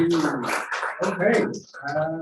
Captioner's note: applause